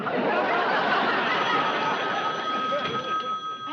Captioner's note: telephone rings